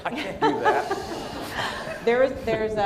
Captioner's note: laughter